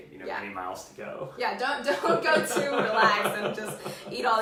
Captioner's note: laughs